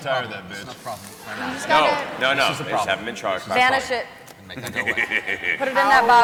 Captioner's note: cackles